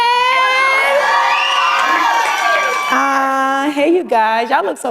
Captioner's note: crowd cheers